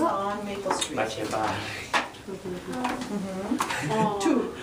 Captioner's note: student speaking in Spanish